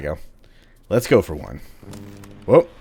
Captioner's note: radio static